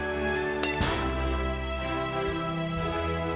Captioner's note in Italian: rumore di vetri infranti